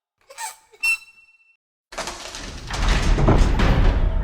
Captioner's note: huge doors opening